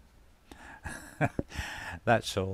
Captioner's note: laughs